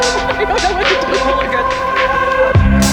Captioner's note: camper laughing; upbeat music